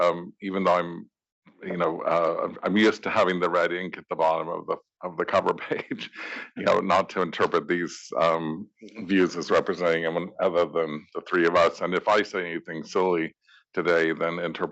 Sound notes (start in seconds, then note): 5.0 laugh